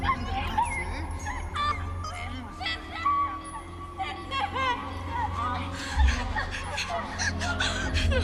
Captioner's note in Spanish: Gritos